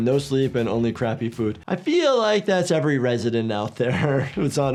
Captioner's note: chuckles